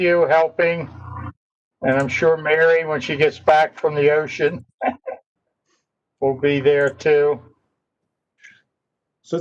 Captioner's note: laughter